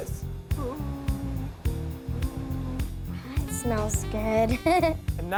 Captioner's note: chuckles